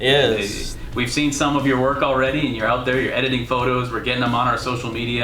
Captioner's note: none